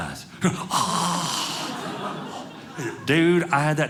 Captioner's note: audience laughing